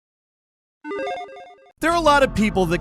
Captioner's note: electronic chiming